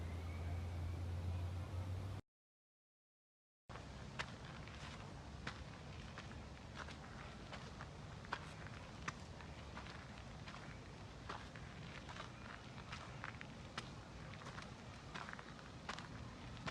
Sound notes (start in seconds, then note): 4.1 footsteps shuffling